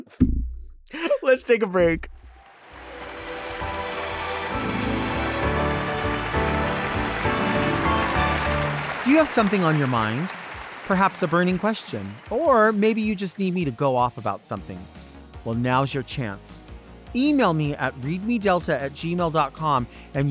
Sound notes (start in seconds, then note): 2.9 audience applauds; 4.3 festive music